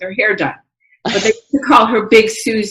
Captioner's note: laughs